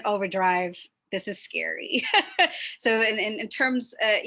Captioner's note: laughs